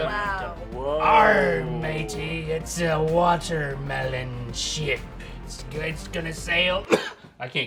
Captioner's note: cough